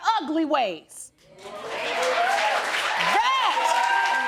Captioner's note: audience cheering